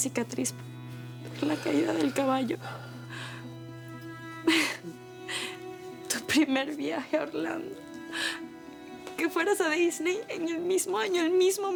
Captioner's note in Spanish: Sollozos